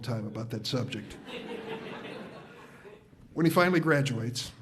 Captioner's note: audience laughs